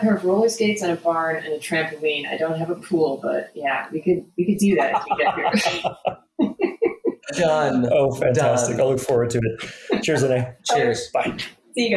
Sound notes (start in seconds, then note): 4.7 laughing